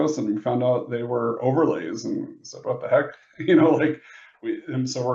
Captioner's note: laughs